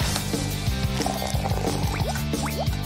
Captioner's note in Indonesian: Menuangkan air panas